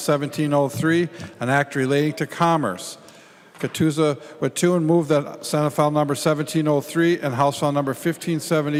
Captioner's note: gavel